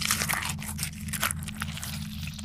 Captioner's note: Squelch